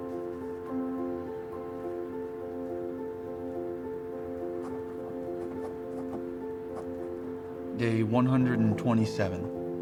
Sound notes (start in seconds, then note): 0.2 gentle piano continues; 5.2 pen scratching